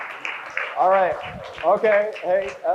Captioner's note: crowd cheers